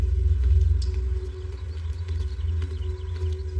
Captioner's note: ominonous music; birdsong